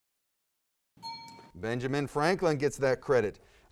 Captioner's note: bell dings